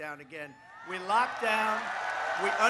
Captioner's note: cheering and applause